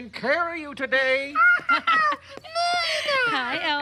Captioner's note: Elmo laughing